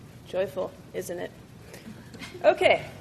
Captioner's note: soft laughing